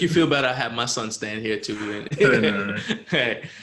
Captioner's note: laughs; laughs